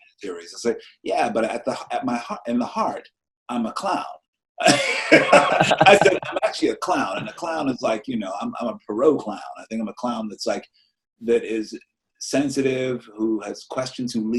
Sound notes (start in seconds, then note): 4.6 both laugh loudly